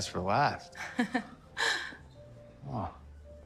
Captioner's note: Michelle chuckling